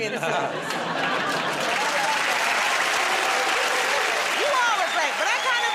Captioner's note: laughter and applause